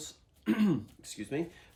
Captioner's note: clears throat